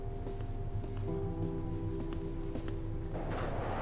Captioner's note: footsteps